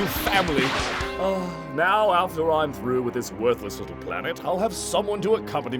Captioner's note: sighing wistfully